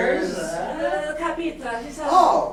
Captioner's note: speaking grammelot